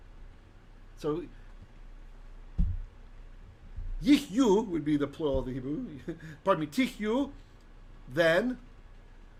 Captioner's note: Hebrew